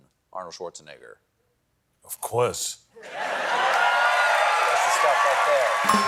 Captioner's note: cheers and applause